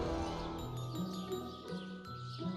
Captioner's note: birds singing